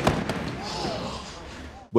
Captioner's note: people Gasping